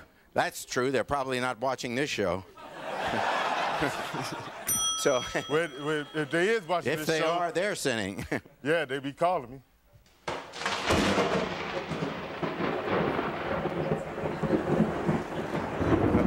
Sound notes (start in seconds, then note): 2.4 bell dinging; 2.5 audience laughing; 10.2 thunder crashing